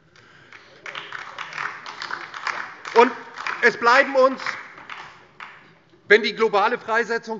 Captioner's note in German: Beifall DIE LINKE